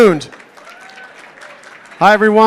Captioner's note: applause